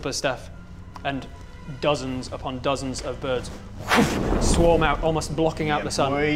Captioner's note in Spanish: swhoo